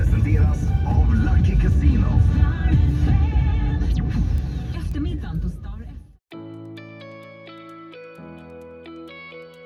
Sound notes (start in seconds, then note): 1.7 radio playing